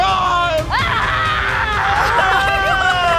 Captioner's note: screaming